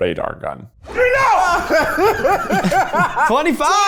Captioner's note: everyone laughs happily